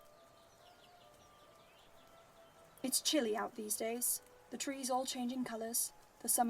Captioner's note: birds chirp